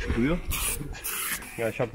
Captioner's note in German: zisch